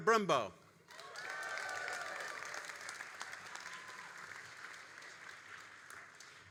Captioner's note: all applauding and cheering